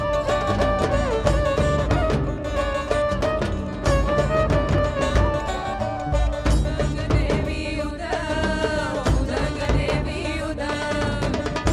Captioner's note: cheering/Applause